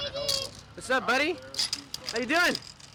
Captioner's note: people chatter